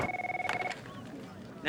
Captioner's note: phone ringing